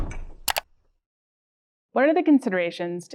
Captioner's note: computer mouse clicks